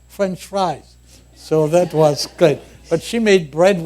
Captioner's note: laughter